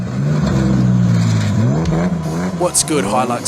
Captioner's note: truck engine revving